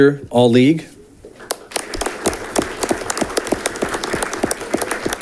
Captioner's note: audience clapping